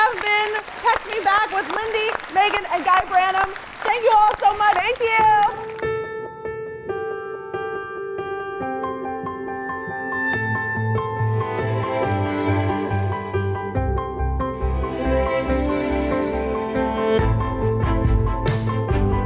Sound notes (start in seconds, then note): 5.1 audience clapping; 6.0 pensive music